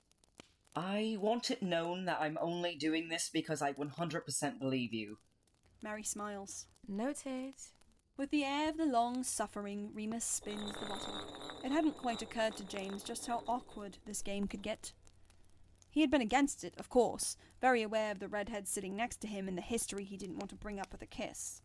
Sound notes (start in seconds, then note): 10.2 bottle rolling